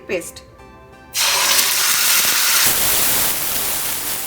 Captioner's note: sizzling